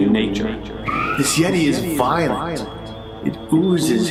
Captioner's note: eerie squealing